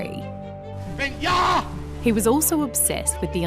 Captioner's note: speaks intensely in german